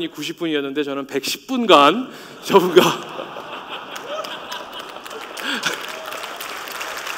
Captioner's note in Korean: 박수소리